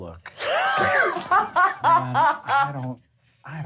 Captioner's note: laughs